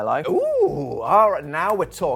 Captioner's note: exclaims